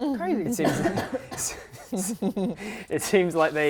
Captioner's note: laughing